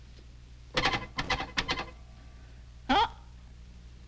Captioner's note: phone tapping